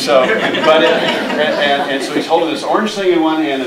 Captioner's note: audience laughing